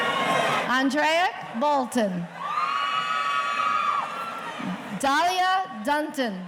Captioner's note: audience cheering